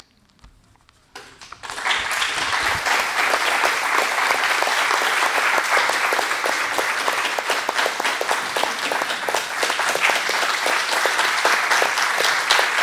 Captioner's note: applause